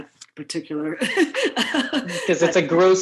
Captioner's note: laughs